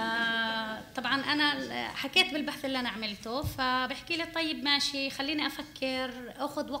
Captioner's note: speaking arabic